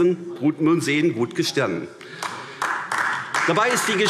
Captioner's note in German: Beifall AfD